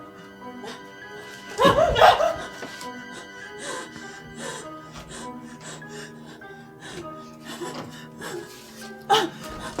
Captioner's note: Ronnie's panicked noises; Ronnie sobs